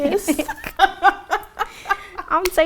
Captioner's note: laughing